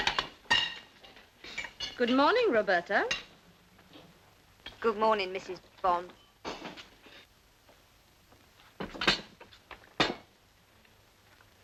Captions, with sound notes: [plate clinking] Good morning, Roberta. Good morning, Mrs. Bond.